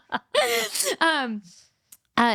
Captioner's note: laughing